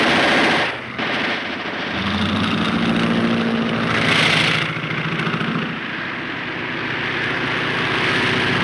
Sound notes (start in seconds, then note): 0.0 guns firing; 2.0 Phantom buzzing; 5.0 plane engine revving